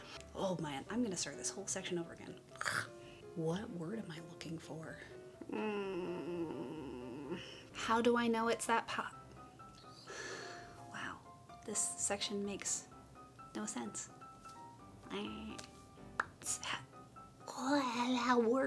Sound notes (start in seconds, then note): 2.5 phlegm; 5.5 whimper; 13.0 pop